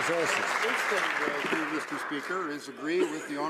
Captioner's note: some Applause